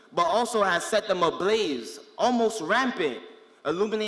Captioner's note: none